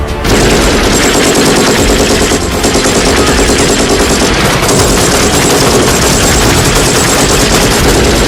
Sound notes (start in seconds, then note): 0.2 gunshots banging